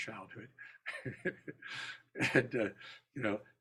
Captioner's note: laughter